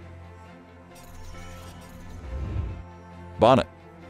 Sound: bolt rattling

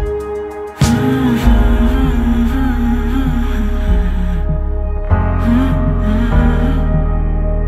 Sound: hmm, hmm, hmm

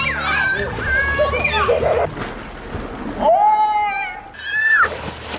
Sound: splashing noises

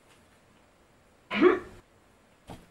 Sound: grunt

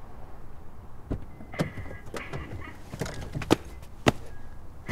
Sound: car beeping; recorded laughter

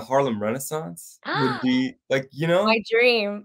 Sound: gasps

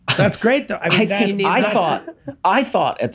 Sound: chuckles

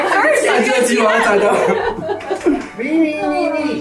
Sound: group laughs

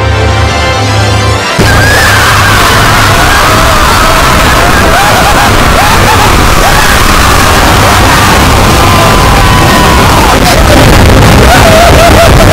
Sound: scary music; annoying screams

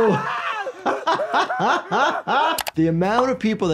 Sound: Homer screaming; laughing

